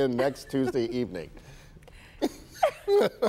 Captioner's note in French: laughter